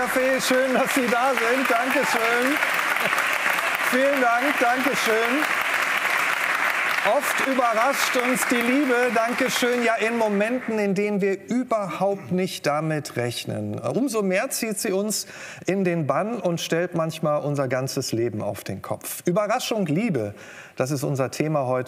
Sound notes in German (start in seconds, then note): 2.7 Leises Lachen